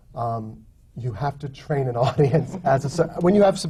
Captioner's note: laughs